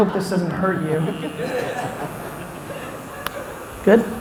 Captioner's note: laughs